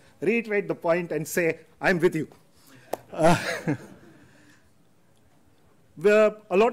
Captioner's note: laughs